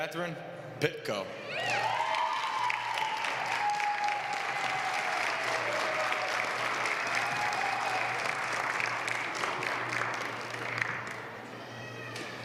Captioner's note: applause